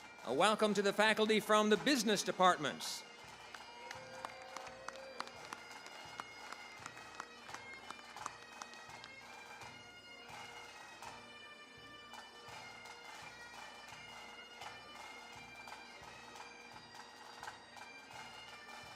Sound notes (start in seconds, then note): 3.8 applause; 10.3 bagpipe music